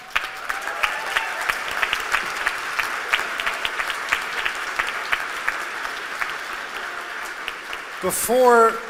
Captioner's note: applause